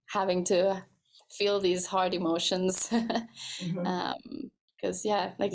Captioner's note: laughs